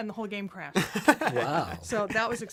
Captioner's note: laughs